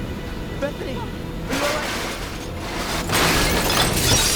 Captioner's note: none